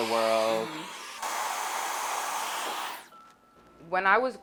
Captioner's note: blow drying